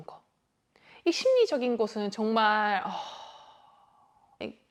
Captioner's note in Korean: 한숨